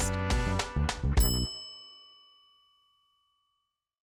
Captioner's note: bell dinging